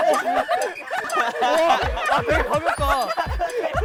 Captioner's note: laughing